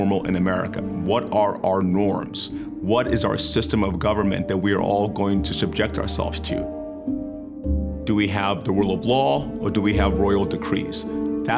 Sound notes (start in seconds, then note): none